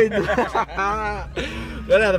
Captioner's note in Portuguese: Risadas